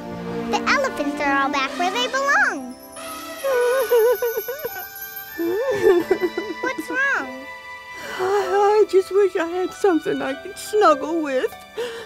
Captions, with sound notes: The elephants are all back where they belong. [crying] What's wrong? I just wish I had something I could snuggle with.